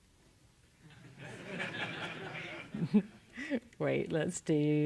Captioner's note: laugh